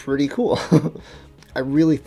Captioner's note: laughs